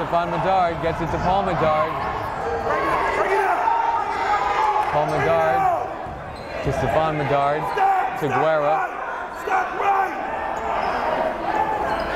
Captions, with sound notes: Stephon Medard gets it to Paul Medard. (yelling) Paul Medard to Stephon Medard to Guerra. (yelling)